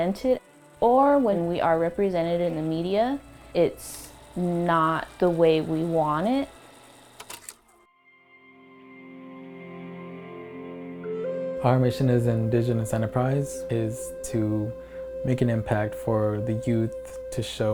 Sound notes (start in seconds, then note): 6.7 film projector click